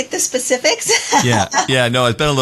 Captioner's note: laugh